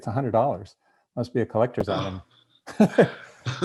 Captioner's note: laughing